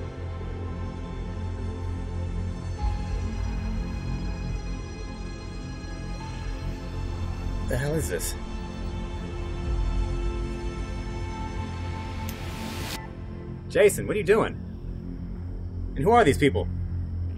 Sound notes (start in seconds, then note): 2.4 very low moaning